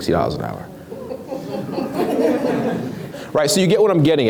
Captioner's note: laughs